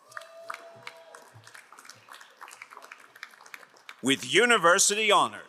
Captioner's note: crowd cheering and applauding